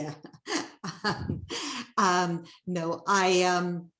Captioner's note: chuckling